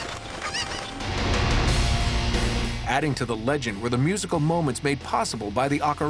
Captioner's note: birds cawing